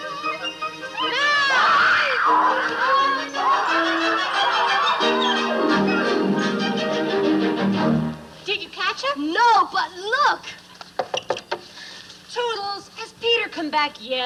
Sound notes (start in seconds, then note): 1.9 bird squawks